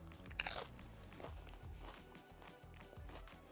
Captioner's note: chip crunching